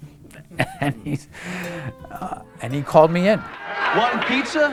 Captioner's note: laughs